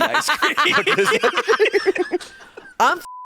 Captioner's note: all laughing